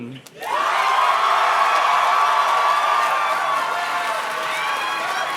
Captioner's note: audience cheers and claps